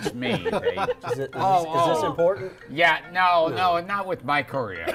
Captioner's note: phone ringing